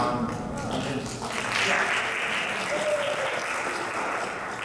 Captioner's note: audience clapping